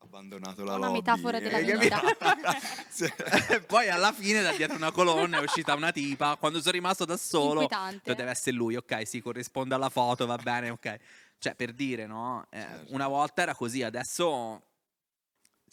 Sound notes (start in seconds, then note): 0.8 laughing